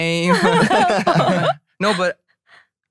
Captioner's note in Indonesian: tertawa